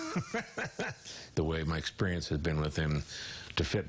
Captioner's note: laughs